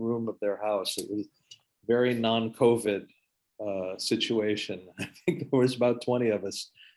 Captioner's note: laughs